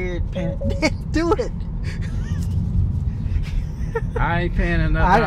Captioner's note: laughs